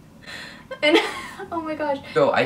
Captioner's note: laughs